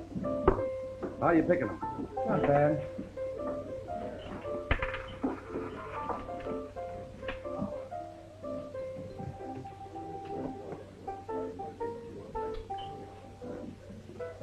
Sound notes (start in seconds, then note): 4.7 coin rattles; 7.7 people murmuring